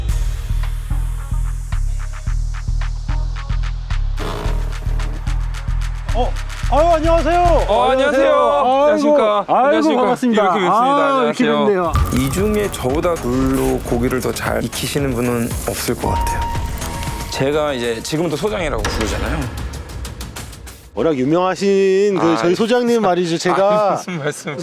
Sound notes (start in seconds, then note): 4.2 creak